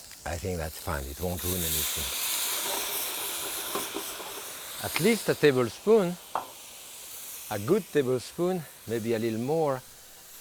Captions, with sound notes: I think that's fine, it won't ruin anything. (pan whooshing) At least a tablespoon, a good tablespoon, maybe a little more.